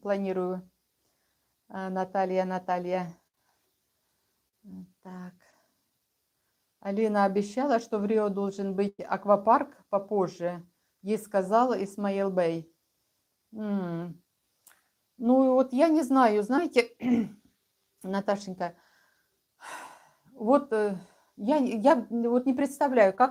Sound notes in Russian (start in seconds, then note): 17.0 откашливается; 19.6 вздыхает